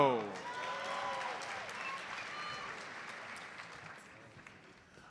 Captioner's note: audience applauds